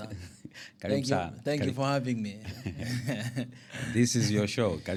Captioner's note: laughter